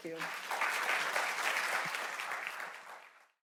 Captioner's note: audience applauds